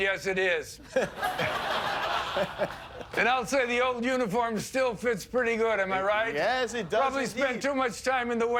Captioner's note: laughter